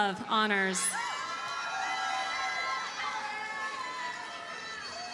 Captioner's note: audience cheers and applauds